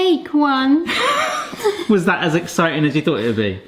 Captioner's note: laughs